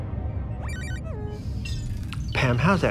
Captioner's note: robot beeps